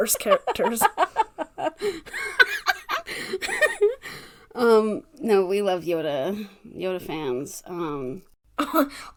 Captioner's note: laughing